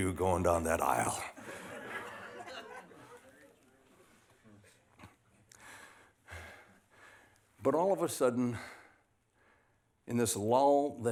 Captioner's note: laughter